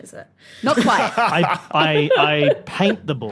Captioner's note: laughs